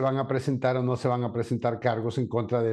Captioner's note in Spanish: HABLA EN INGLéS